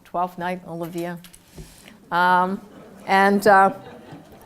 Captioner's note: laugh